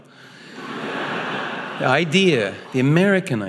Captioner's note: audience laughing